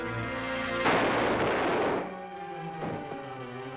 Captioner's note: dramatic music; gun firing